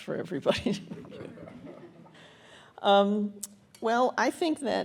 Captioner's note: audience chuckles